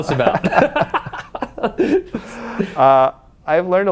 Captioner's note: laughs